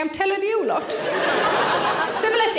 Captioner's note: audience laughing